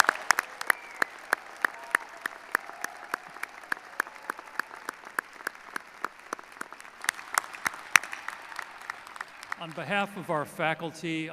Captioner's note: cheers and applause